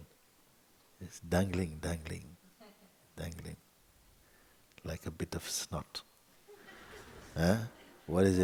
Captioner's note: laughter